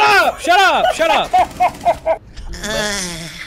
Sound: laughs; moans

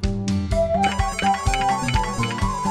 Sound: phone ringing

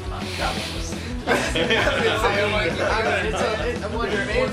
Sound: laughter

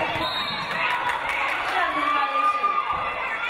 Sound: referee blows whistle

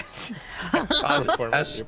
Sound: laughing

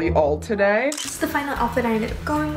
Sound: camera snaps

